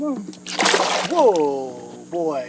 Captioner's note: splash